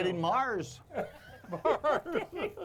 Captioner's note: all laughing; chuckling